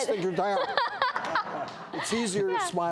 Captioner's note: laughter